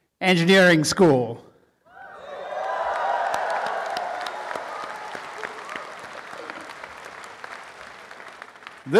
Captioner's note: applause and cheering